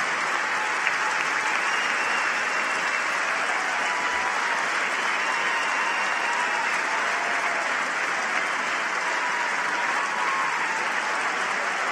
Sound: applause

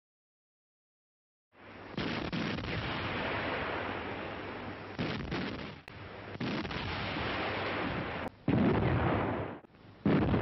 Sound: artillery fire

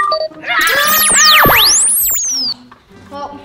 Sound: ray beeps

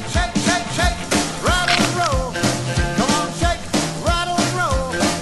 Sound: crack

